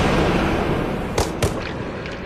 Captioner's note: thud